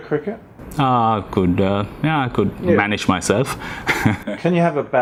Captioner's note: laughs